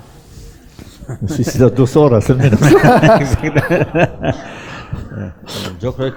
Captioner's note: laughs